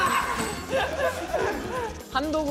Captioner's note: kekekekeke